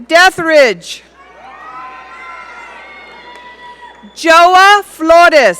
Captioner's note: audience cheering